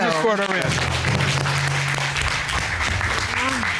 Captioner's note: cheers and applause